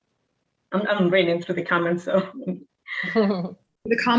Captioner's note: chuckling